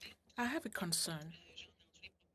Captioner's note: speaking French